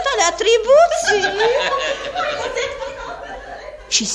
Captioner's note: everyone laughs